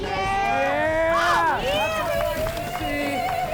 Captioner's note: cheering